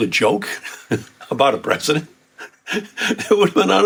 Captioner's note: laughs